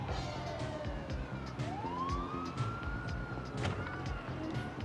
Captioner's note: distant siren blares